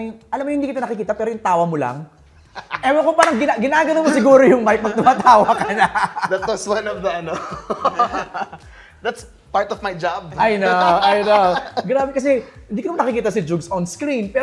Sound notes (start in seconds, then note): 2.4 laughs; 7.5 laughter